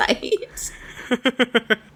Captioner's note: laughs